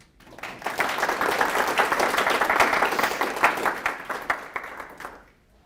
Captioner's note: applause